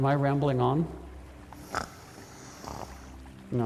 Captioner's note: snoring